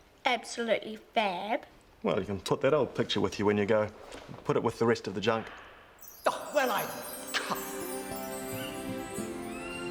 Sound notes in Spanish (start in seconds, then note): 6.0 campanadas tintineando